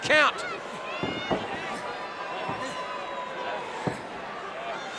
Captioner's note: crowd cheering